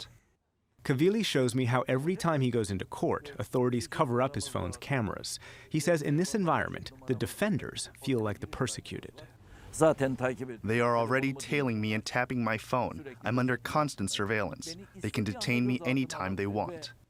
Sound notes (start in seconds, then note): 9.7 through translator